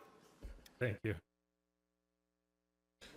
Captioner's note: pat